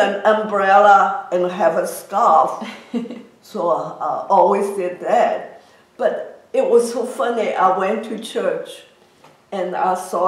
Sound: laughs

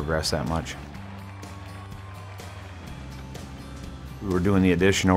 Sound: cheering; soft music

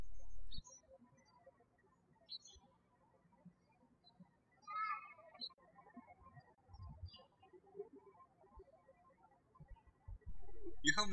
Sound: birds chirping

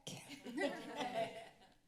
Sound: laughter

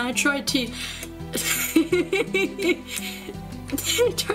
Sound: more laughter

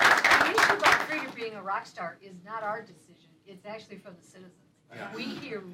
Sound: applause

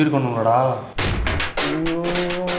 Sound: frustrated

